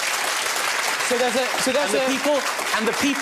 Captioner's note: audience applauding